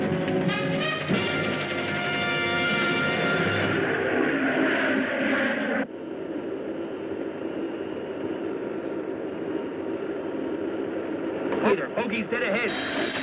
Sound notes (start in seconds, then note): 3.6 planes roaring